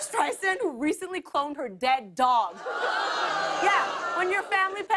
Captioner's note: audience groans